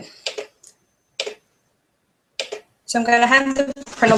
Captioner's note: clicks